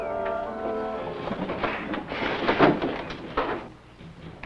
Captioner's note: clanking